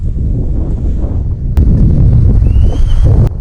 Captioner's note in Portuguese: assobio